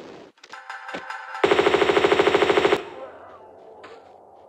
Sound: bratatatatata

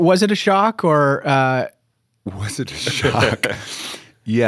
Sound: chuckle

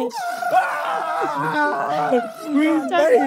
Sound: contestants cheering

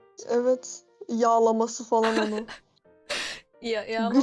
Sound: chuckling

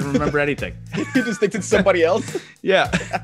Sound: laugh

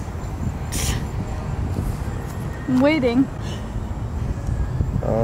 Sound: scoffs

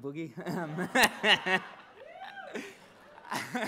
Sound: laughs

